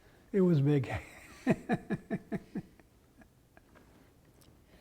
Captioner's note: laugh